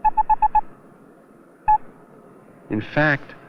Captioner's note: beeping